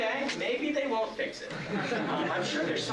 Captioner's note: laughter